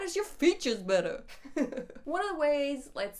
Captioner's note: laughs